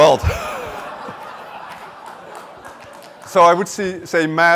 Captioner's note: laughter